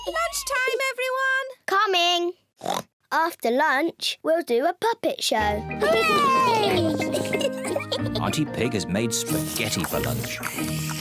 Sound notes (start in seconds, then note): 6.1 giggles